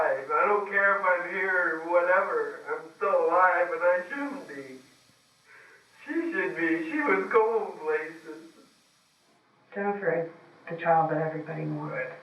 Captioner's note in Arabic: يبكي، ويتحدث بشكل غير متماسك